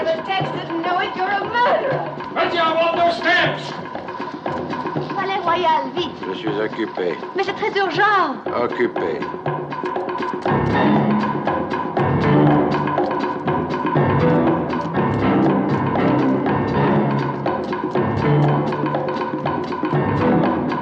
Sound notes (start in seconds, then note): 5.8 speaking French; 9.7 energetic tense music